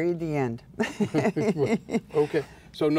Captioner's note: laughing